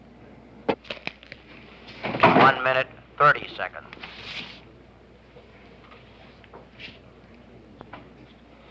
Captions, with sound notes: [bang] 1 minute 30 seconds.